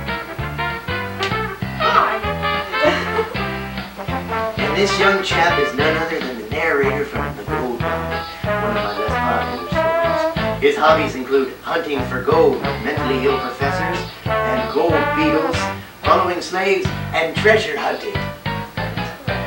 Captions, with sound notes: Hi! [laughs] And this young chap is none other than the narrator from "The Gold-Bug," one of my less popular stories. His hobbies include hunting for gold, mentally ill professors ... ... and gold beetles, following slaves, and treasure hunting.